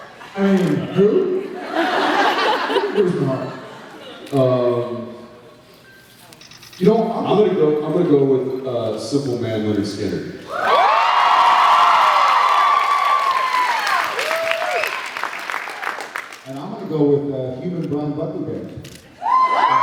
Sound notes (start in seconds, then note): 1.6 laughs; 10.5 cheers, applauds; 19.2 cheers, applauds